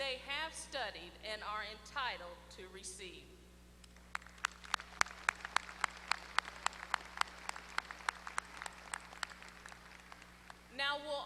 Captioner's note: applause